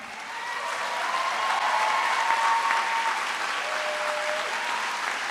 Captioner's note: trustees and audience applaud